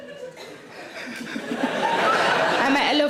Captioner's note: Sarah laughs; audience laughs